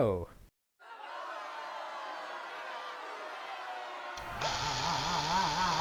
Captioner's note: crowd shouts and machinery whirrs; Tick-Tock screams incoherently in a circular motion